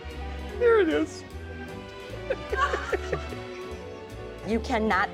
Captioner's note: laughs